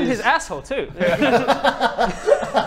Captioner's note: laughs